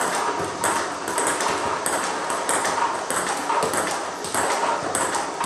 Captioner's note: ball ping pong hitting continues